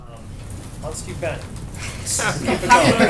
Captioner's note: laughter